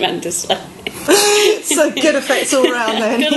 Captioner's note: both women laughing